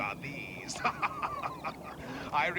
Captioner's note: laughs